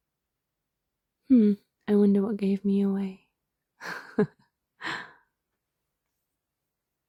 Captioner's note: laughs